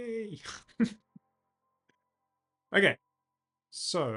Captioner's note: laughs